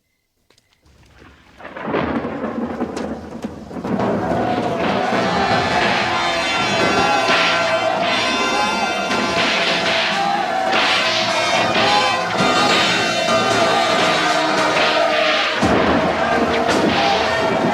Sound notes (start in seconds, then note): 2.0 thunderclap; 4.5 men wailing; 6.8 whips cracking; 10.6 men screaming